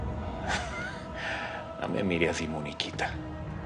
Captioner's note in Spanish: Ríe